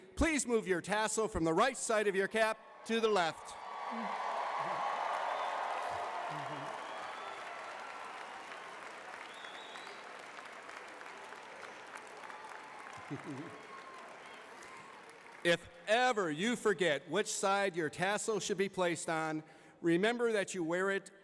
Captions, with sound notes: please move your tassel from the right side of your cap to the left *cheering and applause* if ever you forget which side your tassel should be placed on remember that you wear it